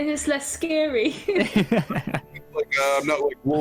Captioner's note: laughs